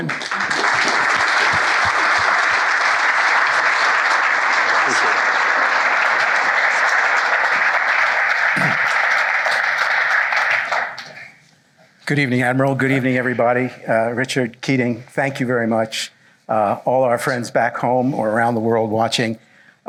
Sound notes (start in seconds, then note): 0.3 applause; 8.5 clears throat